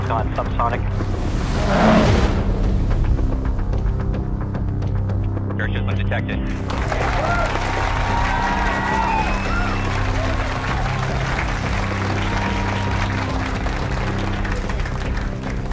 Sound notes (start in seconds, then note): 3.1 wind whooshing; 5.1 upbeat tension music; 9.2 crowd clapping and cheering